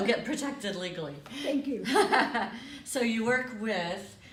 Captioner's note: laughter